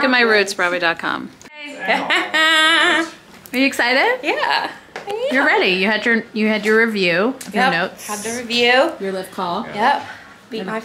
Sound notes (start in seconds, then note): 1.9 person laughing